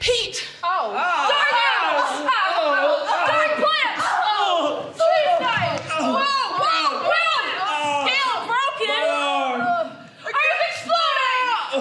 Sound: groaning

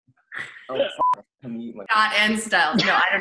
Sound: laughing; beep

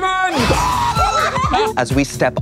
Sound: screaming

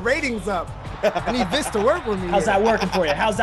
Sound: laugh

